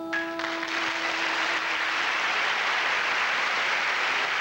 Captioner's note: applause